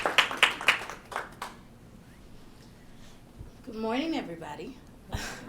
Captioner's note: applause